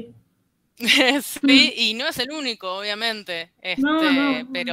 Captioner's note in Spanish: Risas